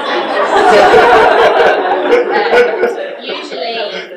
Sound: audience laughs

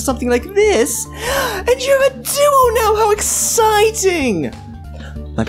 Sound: gasp

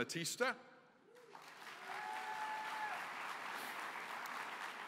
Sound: applause

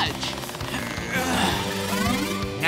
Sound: straining

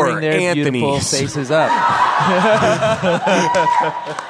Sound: laughter and cheering

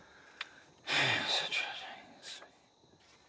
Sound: sighs, mutters under breath

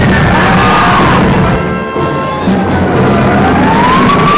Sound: dramatic music; worshipers yelling; dramatic music; sirens blaring

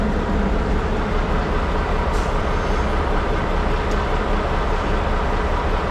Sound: motor rumbling

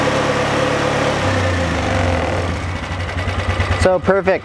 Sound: engine dies down

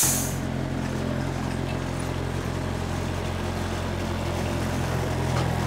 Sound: telehandler engine rumbling

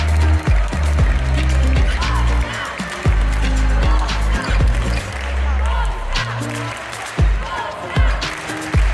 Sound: team shouts 'Polska! Polska!', clap-clap-clap; Audience joins in clapping with the polish team

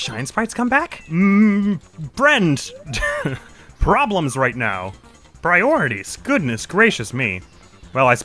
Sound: laughs

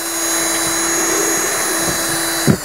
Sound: drill whirring

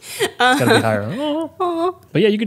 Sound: laughing

